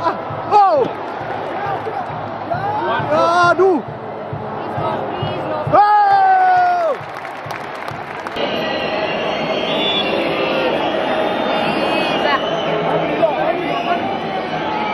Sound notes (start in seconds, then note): 3.8 clap